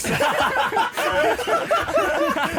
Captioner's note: laughing